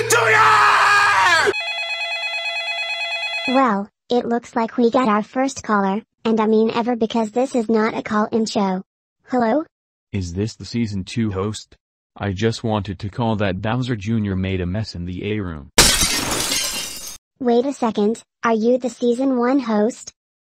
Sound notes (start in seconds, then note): 1.5 phone ringing